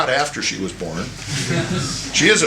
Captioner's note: laughter